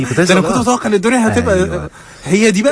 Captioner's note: laughs